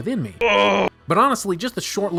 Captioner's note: sick person grumblings